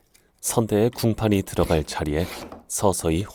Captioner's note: planing sound